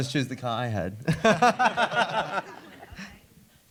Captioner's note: laughter